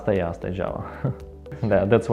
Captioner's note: chuckles